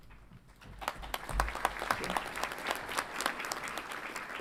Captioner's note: audience applauds